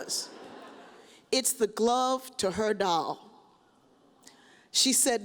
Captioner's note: audience chuckles